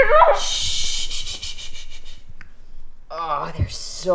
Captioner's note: Jessie screams; Maisie hushing